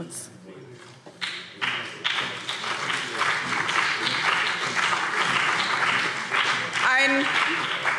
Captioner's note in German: Beifall BÜNDNIS 90/DIE GRÜNEN und CDU